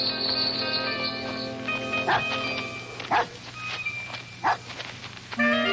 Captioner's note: dog barks